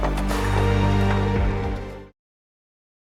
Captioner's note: cheers